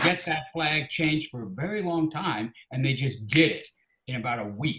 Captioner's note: snaps fingers